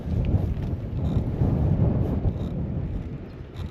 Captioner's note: gusting winds